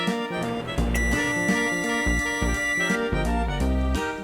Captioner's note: microwave beeping